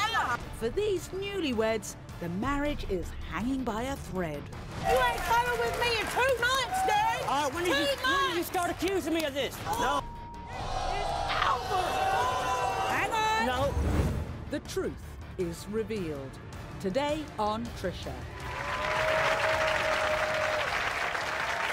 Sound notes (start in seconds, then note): 9.5 audience booing and gasping; 18.4 audience applause